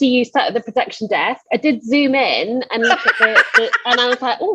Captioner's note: laughs